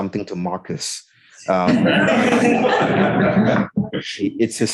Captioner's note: laughing